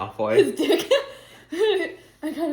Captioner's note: laughs